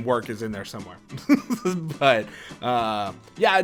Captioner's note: laughter